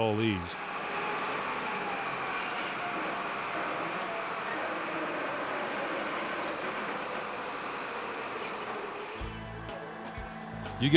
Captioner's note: sounds of Drilling